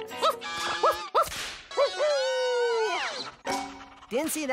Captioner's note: howling